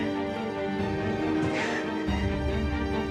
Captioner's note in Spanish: sollozos